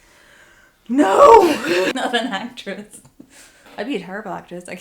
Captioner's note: laughing / exasperated